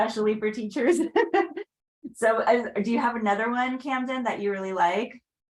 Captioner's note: laughs